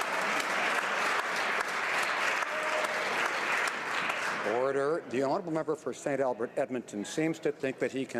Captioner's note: some Applause